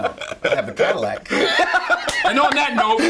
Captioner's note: Paul laughing